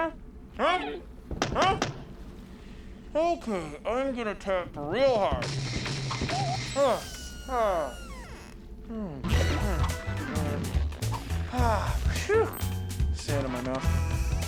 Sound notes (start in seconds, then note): 4.7 pounding